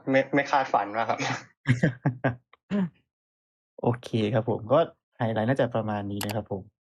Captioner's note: laughs